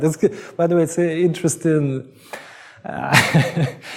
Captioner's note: laughs